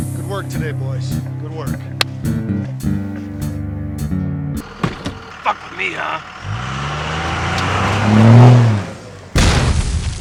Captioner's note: another knock